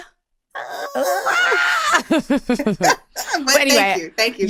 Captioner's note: laughter